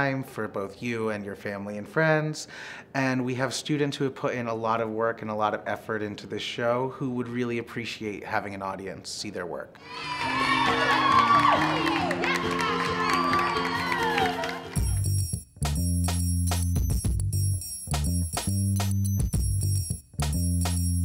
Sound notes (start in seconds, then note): 9.8 audience cheers; 14.8 bright music